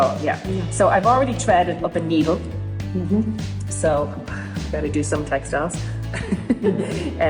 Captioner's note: laughs